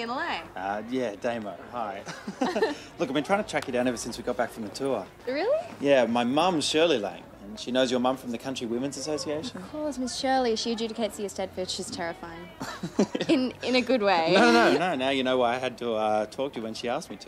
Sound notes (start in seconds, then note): 2.0 chuckles; 12.6 chuckles